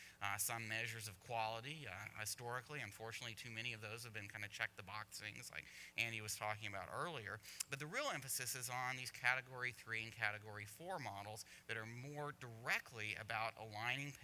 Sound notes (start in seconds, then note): none